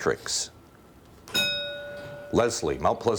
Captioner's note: bell rings